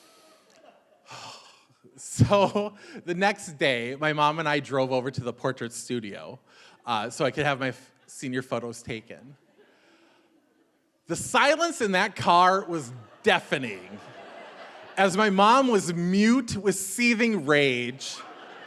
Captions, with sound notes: So, the next day, my mom and I drove over to the portrait studio so I could have my senior photos taken. The silence in that car was deafening. (audience laughing) As my mom was mute with seething rage,